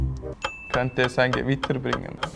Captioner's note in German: helle Glocke